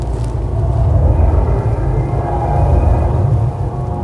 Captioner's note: power pulsing